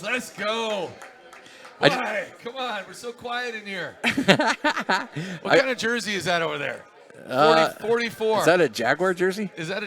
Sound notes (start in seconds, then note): 0.0 clapping; 4.0 laughter